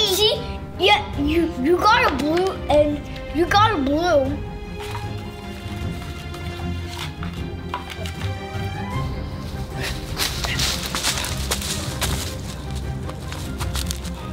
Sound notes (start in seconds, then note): 5.6 fast music; 5.6 paper shuffling; 9.0 sticks and leaves crunching